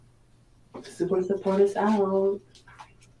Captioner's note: speaks in foreign language